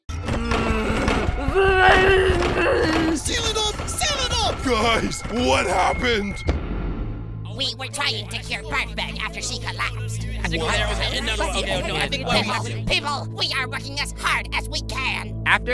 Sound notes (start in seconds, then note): 0.2 grunting noises; 0.2 angry babbling; 9.3 chattering, yelling frantically